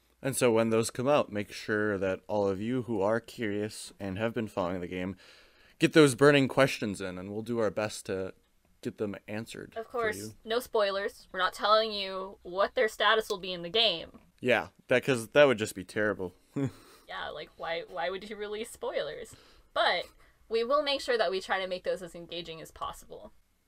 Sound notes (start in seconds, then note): 16.6 laughs